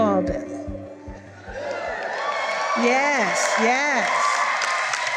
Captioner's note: cheering